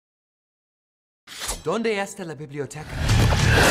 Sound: speaks in Spanish

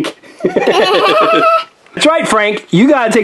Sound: both laugh

